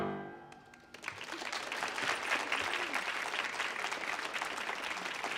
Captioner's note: audience applauds